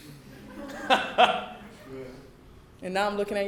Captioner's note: laughing